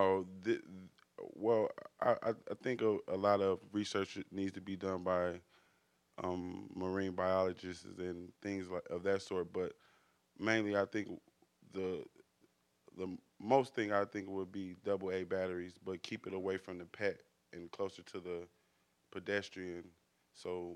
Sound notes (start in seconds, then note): none